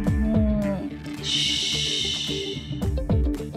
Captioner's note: shushing